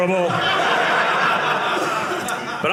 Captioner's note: audience laughing